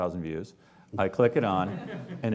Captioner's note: laughing